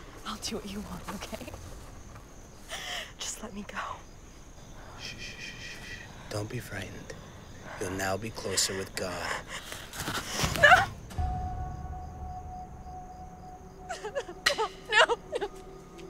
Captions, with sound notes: - I'll do what you want, okay. Just let me go. - Shh, don't be frightened. You'll now be closer with God. (Rosemary yelling) (anxious music) - No, no, no.